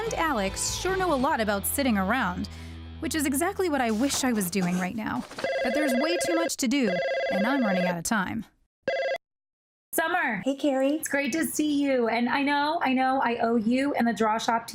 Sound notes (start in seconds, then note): 8.8 phone ringing